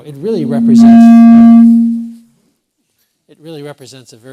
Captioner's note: microphone feedback